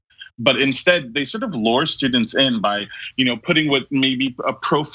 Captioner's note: laugh